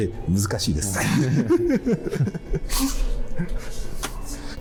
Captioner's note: laughing